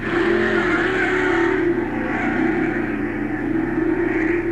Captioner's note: engine roaring